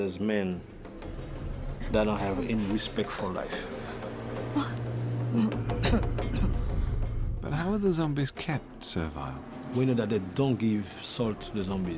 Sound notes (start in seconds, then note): 3.5 woman gasps